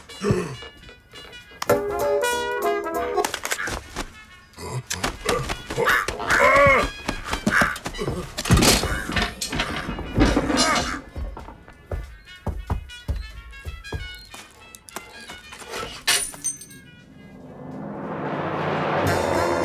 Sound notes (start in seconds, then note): 0.1 gasps; 3.2 crow squawks; 8.4 thudding; 12.2 footsteps; 16.0 glass shatters; 19.4 upbeat music